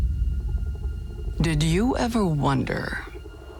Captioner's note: ominous music; voiceover